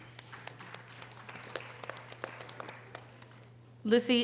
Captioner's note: audience applause